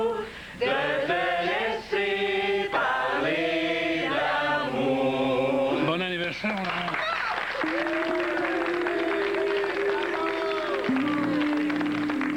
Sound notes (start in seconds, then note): 6.4 Applaudissements